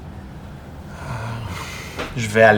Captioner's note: sigh